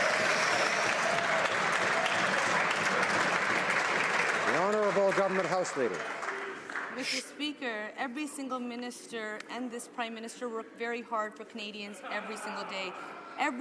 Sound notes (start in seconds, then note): 8.1 some Applause